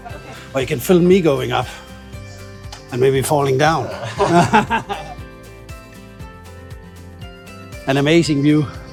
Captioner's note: laughter